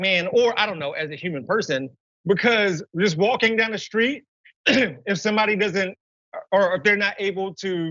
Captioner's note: cough